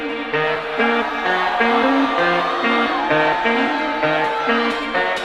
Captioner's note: crowd cheering; techno music